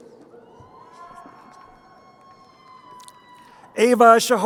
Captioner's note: crowd cheering